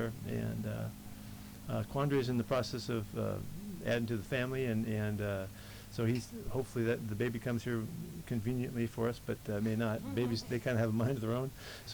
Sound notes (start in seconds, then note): 10.0 reports giggle